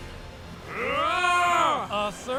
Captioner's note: rawr